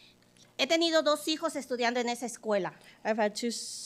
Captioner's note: speaking Spanish